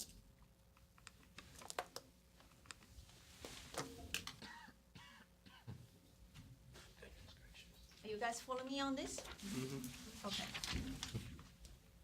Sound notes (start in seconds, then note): 9.4 mmhh mh